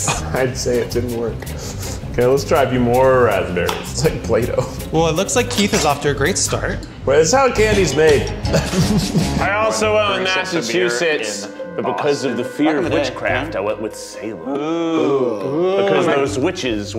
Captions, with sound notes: - (laughs) I’d say it didn’t work. Okay, let’s try a few more raspberries. It’s like Play Doh. - Well, it looks like Keith is off to a great start. - Well, it’s how candy’s made. (laughing) - I also went with Massachusetts. But, because of the fear of witchcraft, I went with Salem. (all “ooh”-ing) Because those witches.